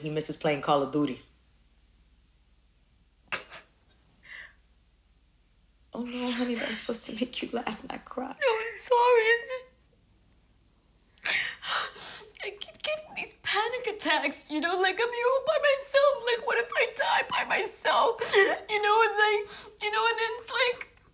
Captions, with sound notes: he misses playing Call of Duty. [sobs] Oh, no, honey, that was supposed to make you laugh, not cry. [weeping] No, I'm sorry. It's just-- [sobs] I keep getting these panic attacks, you know? Like, I'm here all by myself. Like, what if I die by myself? You know? And, like-- you know, and then it's like,